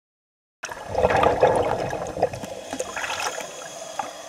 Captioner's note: gurgling water